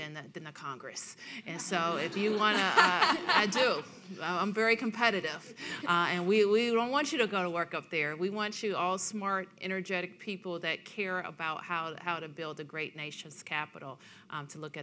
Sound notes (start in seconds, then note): 1.7 audience laughing